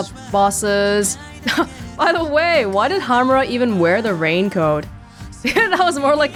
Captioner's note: chuckles